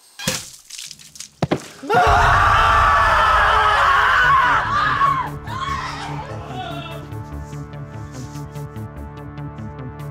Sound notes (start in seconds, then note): 0.6 squish; 1.4 thud; 1.8 screaming continues